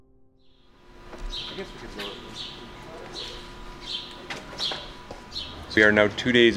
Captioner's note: sound of birds chirping in the early morning